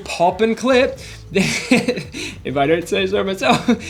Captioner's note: laughs